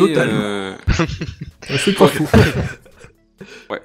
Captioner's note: laughing